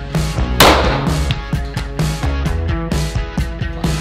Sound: gun firing; upbeat music

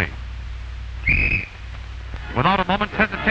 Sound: blowing whistle

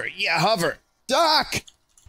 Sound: Marty McFly voice

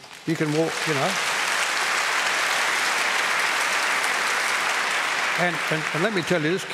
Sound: applause

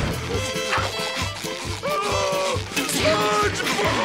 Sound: screaming

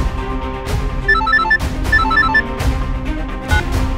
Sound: mobile ringing

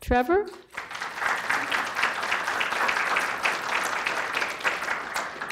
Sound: audience applause

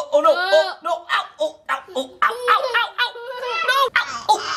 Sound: making funny noises

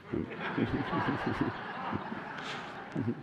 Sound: laughter

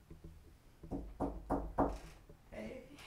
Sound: knock at the door

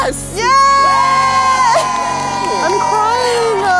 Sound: crowd cheering

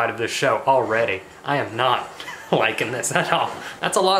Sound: laughs

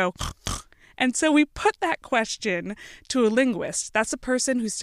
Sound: snorting noise

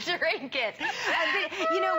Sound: laughter

